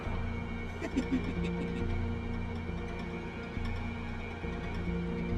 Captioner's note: leprechaun laughing